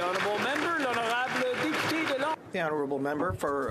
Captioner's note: applause